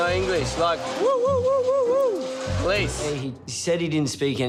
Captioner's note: imitates police siren